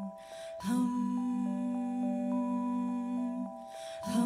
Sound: higher pitch

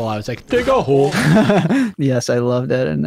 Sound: laughs

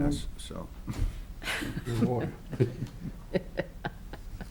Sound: laughter

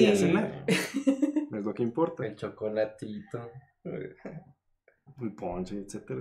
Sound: agreeing & laughing

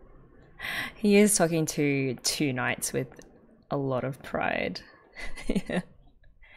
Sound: laughs

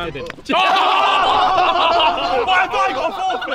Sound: slapping; yelling

